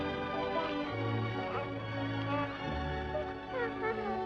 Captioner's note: baby Cooing